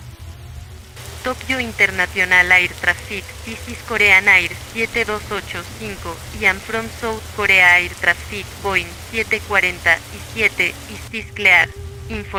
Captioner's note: speaks Spanish